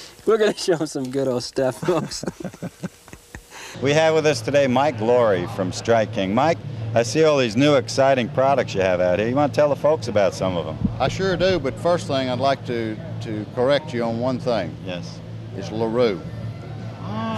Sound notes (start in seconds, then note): 1.7 now is laughing